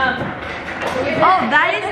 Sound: metal cluttering

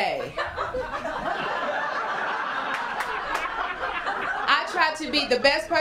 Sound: laughter

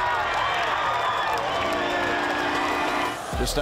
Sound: audience cheering

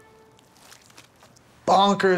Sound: squish

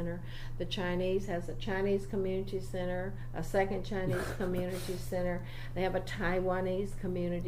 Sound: laughs

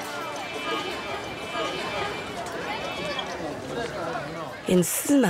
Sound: gentle music; loud traffic; chatter of people

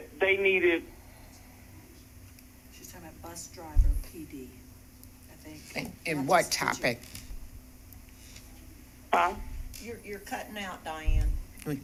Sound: sound cutting out

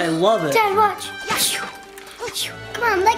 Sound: game noises

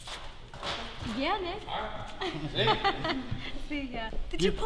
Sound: laughs

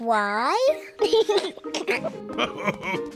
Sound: giggles; laughs

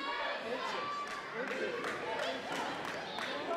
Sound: crowd

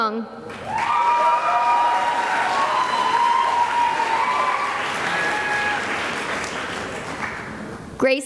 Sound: cheering and applause

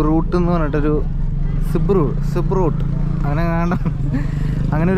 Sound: laughing

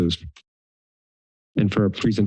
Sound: silence

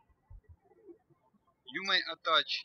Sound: birds chirping

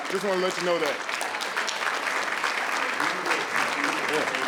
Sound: audience applauding

